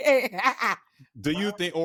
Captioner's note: laughter